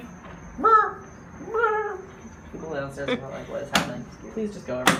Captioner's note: making bird sounds